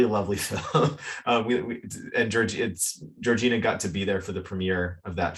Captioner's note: chuckles